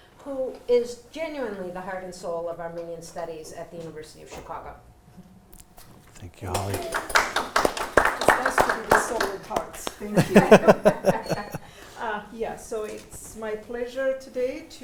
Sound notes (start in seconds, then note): 6.2 audience applauding; 9.4 participants laughing